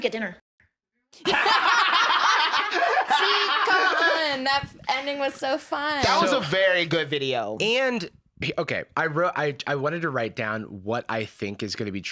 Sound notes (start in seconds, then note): 1.2 laugh